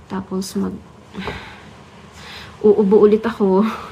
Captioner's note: sigh